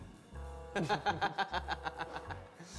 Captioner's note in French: rires